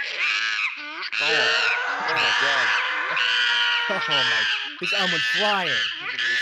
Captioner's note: monkey Violence and Human Screaming